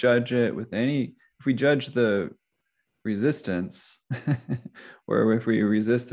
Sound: laughs

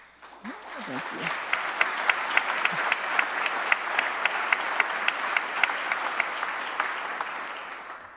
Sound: applause

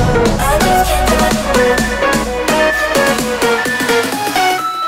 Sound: alarm beeping

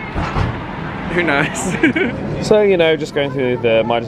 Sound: laughs

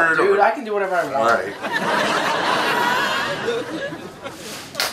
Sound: audience laughs

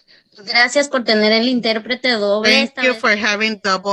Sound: speaks Spanish

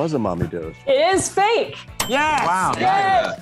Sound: bell dings

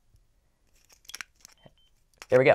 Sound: beeping

